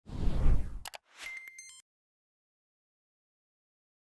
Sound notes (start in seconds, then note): 0.1 rushing air; 1.2 digitized beeping